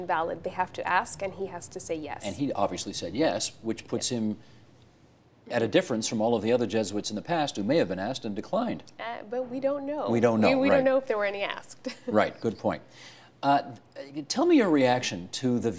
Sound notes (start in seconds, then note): 8.2 laughter